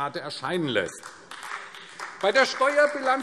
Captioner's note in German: Beifall AfD